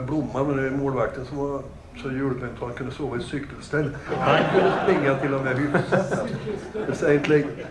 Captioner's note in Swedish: Skratt